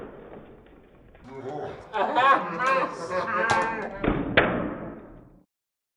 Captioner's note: laughing